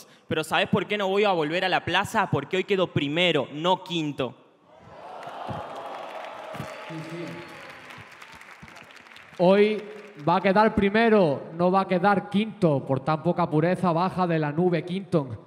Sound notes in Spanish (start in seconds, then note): 4.8 Aplausos